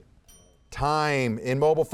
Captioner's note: bell ringing